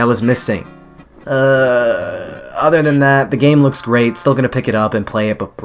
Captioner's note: sigh